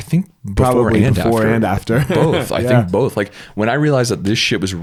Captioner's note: laughs